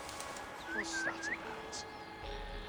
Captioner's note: whistle